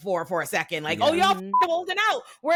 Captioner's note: beep